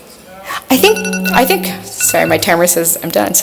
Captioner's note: phone ringing